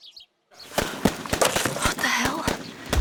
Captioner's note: gunfire; dance music plays in distance